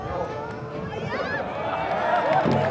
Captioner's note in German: Jubel